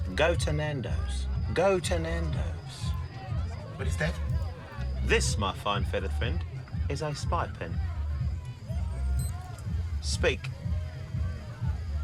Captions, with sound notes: Go to Nando's. Go to Nando's. - What is that? - This, my fine feathered friend, is a spy pen. (pen beeps) Speak.